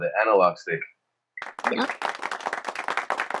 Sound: crowd applauds

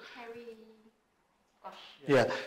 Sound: chatter

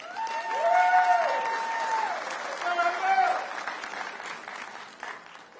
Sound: audience cheering

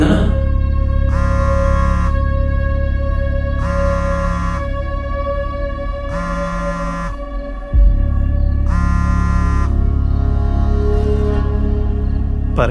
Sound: mobile vibrating

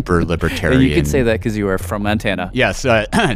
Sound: laughs

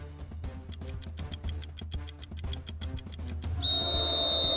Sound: upbeat music; clock ticking; whistle blowing; crowd booing

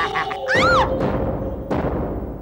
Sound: laughs; screams

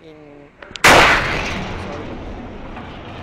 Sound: loud bang

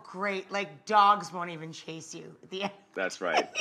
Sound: laughing

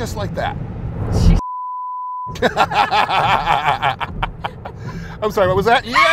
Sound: audio beeps; laughing

